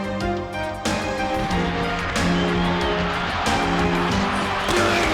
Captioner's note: crowd cheers